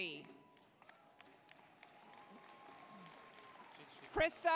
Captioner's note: applause, cheering